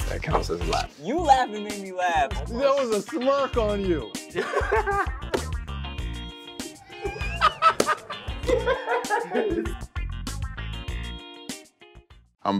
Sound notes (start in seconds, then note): 4.3 laughter; 6.8 laughter; 9.5 quirky music